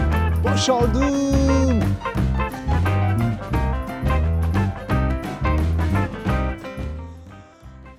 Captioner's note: SHOUTING and DANCE